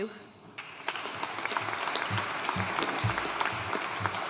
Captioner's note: audience applauding